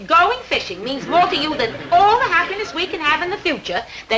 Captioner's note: audience snickering